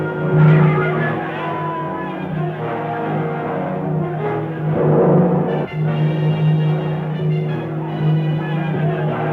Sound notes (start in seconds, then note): 2.5 people shouting